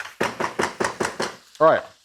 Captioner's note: spatula thumping